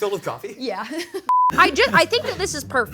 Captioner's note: chuckles